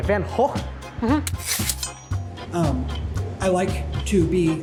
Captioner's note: knife slicing